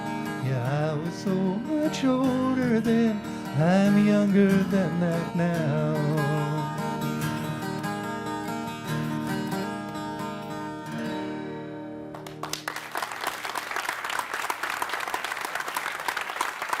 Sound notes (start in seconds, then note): 12.1 applause